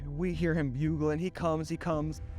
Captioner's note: none